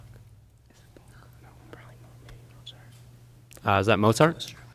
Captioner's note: indistinct conversation